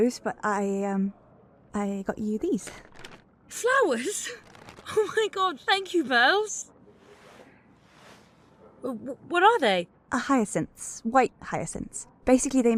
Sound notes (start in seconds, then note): 7.2 plastic and fabric rustles